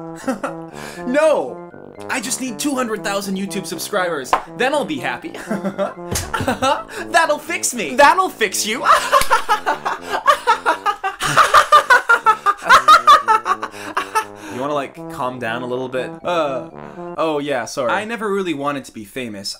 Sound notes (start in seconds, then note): 6.2 slight Maniacal Laughter; 8.8 lighthearted, Joyous Laughter; 11.5 mocking, Maniacal Laughter; 14.5 deadpan Tone; 18.1 clown Music Stops